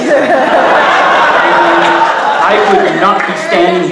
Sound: audience laughing a lot

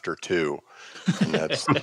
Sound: laughter

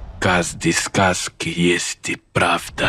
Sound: speaking Russian

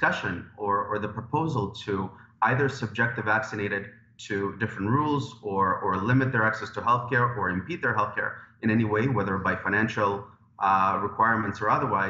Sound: speaking in French

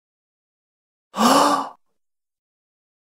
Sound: sound of gasp

